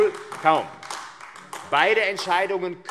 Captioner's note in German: Beifall AfD